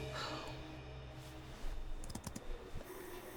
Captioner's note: Rachel sighs